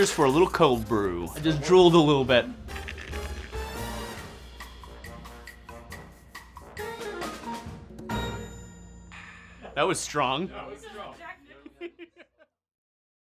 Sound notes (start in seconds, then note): 2.5 slurping; 3.8 jazzy music; 11.0 laughing